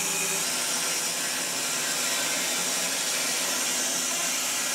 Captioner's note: saw whirring